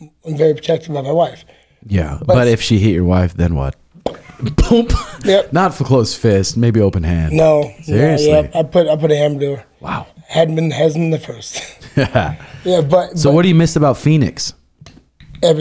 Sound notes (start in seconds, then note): 4.0 imitates popping sound